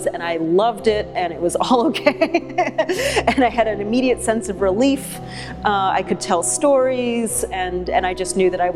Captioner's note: laughs